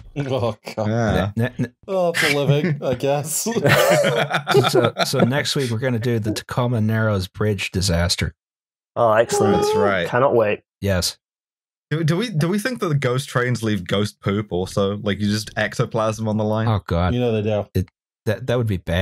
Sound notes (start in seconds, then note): 2.1 laughter